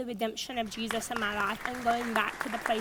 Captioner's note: audience applauds